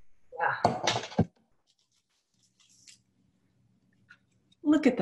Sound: clanking

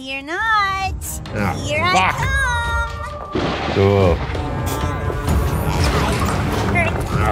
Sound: groans

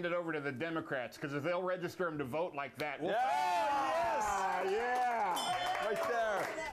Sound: applause; bell rings

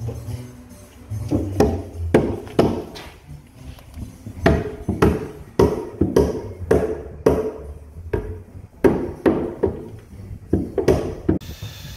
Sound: hammering

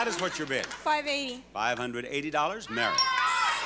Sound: chime

